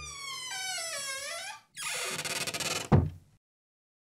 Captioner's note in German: Türe knarzt und schließt